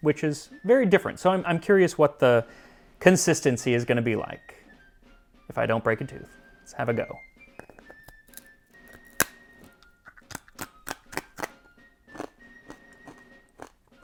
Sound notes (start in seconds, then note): 8.7 crunch Crunch Crunch; 10.4 crunching intensifies